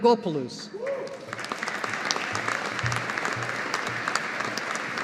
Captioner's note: audience applauding